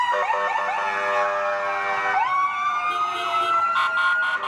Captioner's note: sirens and honking